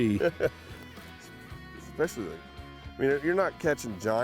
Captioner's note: chuckles